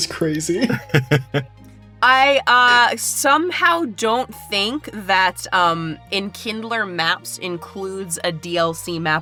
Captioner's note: chuckles